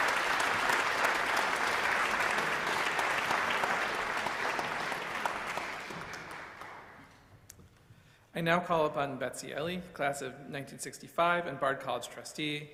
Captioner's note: applause